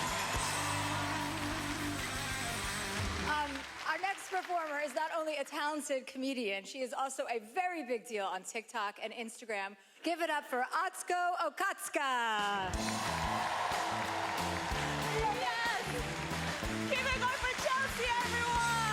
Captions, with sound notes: (applause) - Our next performer is not only a talented comedian, she is also a very big deal on Tik Tok and Instagram, give it up for Atsuko Okatsuka! (cheering) - Yes! Give it up for Chelsea, everyone!